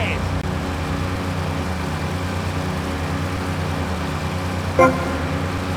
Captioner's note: engine revving; beeping